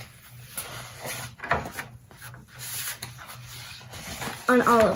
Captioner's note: papers rustling